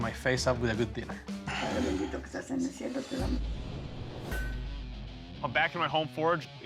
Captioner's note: speaking spanish